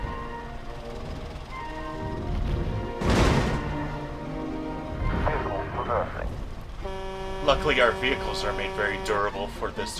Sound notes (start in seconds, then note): 5.0 crash; 6.7 long honk; 7.3 crash